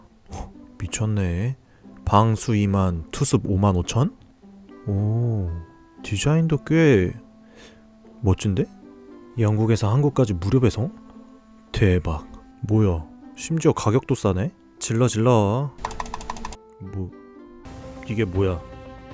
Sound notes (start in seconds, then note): 15.8 click